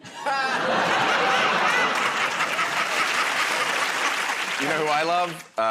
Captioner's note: laughter